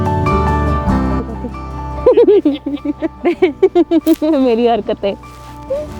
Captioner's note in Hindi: हँसी